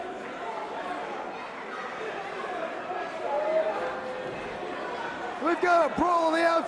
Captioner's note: crowd chatter